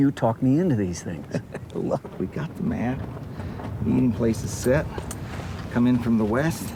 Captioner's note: chuckles